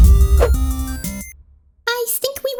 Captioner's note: punch